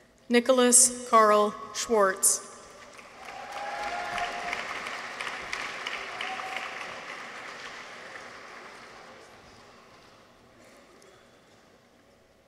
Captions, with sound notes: Nicholas Karl Schwartz. -(people cheer) -(audience applauds)